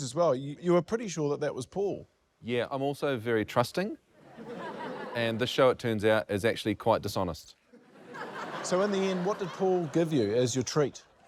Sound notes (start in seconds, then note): 7.7 laughter